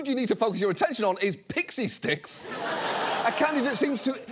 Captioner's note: studio audience laughs